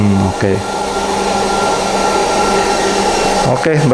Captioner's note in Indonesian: suara mesin